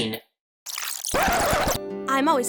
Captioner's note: turntable needle scratches; fast-forwarding